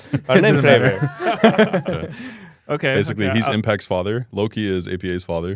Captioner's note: laughs